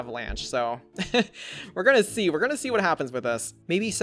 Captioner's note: laughs